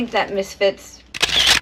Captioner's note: camera shutter sound